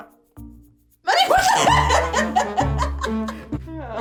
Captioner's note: comical music; laughs loudly; rips fart; comical music